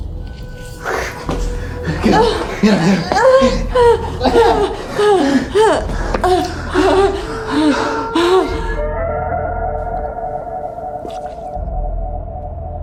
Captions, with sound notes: (eerie music) - Get up. Yeah, yeah. (Tina groans) (Tina and Miles panting) (eerie music continues)